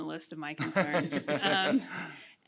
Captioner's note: chuckles